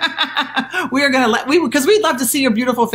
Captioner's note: laughing